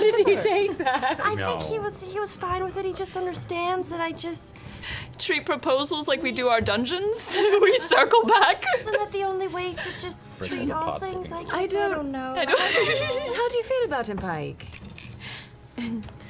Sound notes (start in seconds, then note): 0.0 laughing; 7.3 laughs; 12.4 giggles